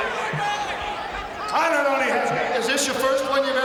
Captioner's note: Bobby speaks faintly